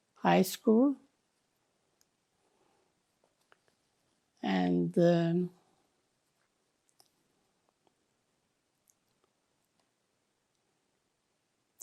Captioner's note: pauses 8 seconds